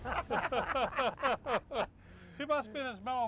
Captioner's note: laughing